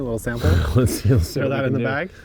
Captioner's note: grunts